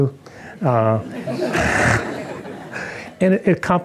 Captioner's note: audience laughing